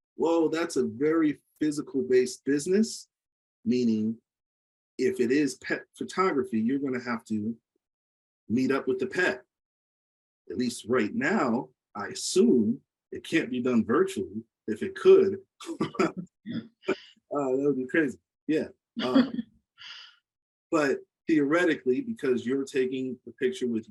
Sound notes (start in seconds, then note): 15.6 laughs; 19.0 participant laughs